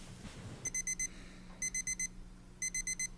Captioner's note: alarm beeping